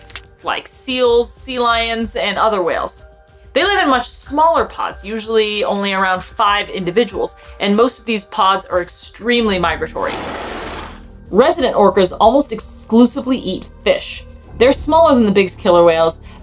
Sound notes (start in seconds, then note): 10.2 background music; 10.2 sound effect